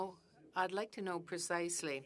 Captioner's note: speaking French